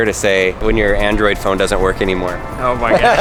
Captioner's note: laughs